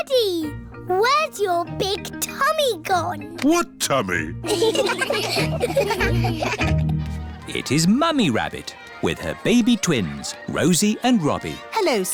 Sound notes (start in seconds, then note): 4.4 laughter